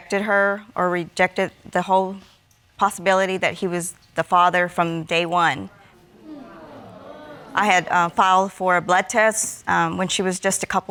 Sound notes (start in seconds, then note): 6.0 audience exclaiming